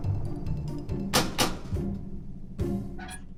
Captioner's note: pounding